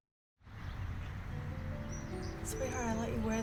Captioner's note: birds chirping; gentle music